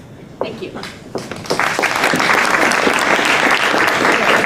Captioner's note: applause